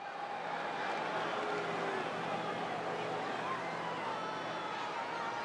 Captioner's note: crowd cheering and jeering